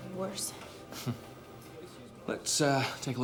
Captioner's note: chuckles